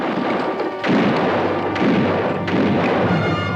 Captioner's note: guns fire